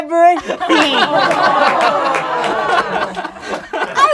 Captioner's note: laughing